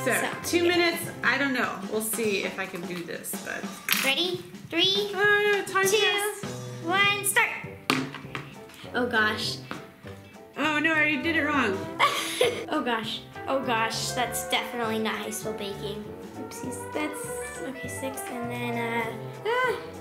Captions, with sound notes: So, two minutes, I don't know we'll see if I can do this. - Ready? Three. - Ah, a timed a test. - Two. One. Start! Oh gosh. - Oh no, I already did it wrong. - (laughs) Oh gosh, oh gosh. That's definitely not how you spell baking. Oopsies, that's okay six, and then ah.